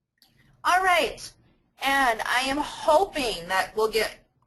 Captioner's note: voiceover